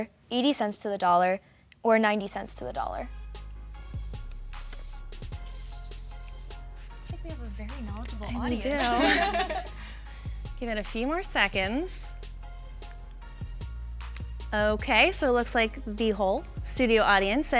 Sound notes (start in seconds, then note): 3.9 mellow instrumental music; 8.6 laughing